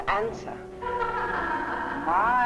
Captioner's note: Vi laughing